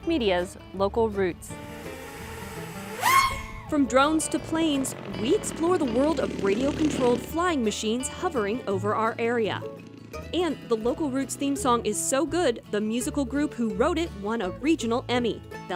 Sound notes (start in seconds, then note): 1.4 drone engine revs